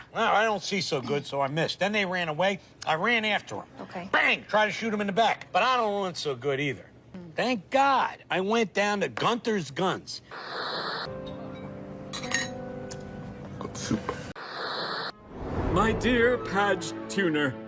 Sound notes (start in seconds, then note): 12.1 cutlery noises